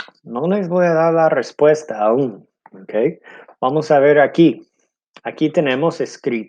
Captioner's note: speaking in foreign language